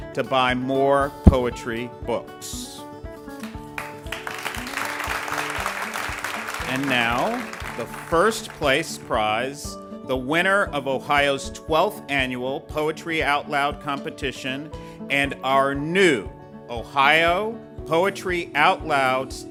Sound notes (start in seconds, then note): 3.4 ^applause^